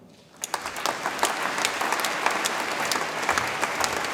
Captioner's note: audience applauds